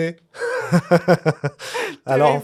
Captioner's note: laughter